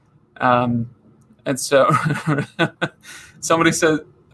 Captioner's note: laughing